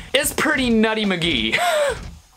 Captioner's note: cough